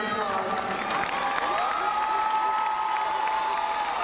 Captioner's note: crowd cheering